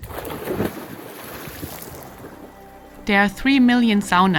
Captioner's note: water splashing